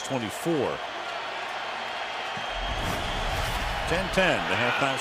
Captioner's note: cheering